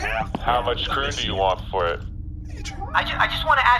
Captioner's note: with quiet disappointment